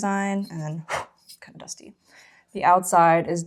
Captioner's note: blows